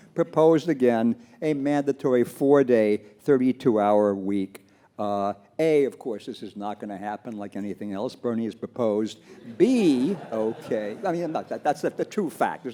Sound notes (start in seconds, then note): 9.4 audience laughs